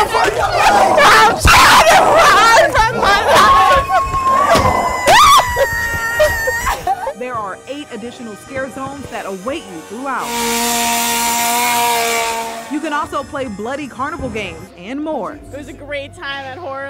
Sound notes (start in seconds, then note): 0.3 screams